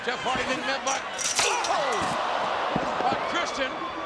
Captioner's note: audience cheering